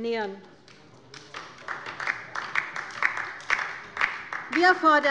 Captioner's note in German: Beifall bei der LINKEN